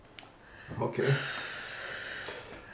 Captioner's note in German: seufzt